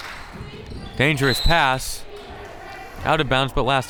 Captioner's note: whistle tweeting